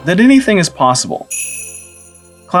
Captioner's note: sleigh bells